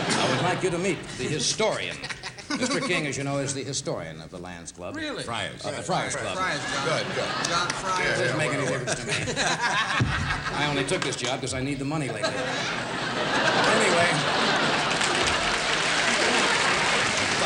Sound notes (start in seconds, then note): 13.4 applause